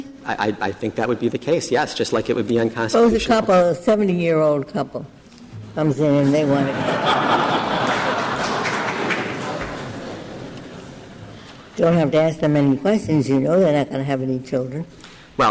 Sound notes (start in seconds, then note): 6.5 laughter